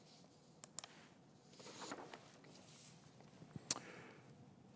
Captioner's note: mouse clicks